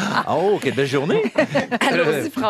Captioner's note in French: rires